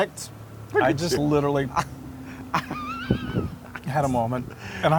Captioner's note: laugh